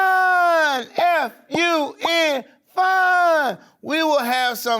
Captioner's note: letters popping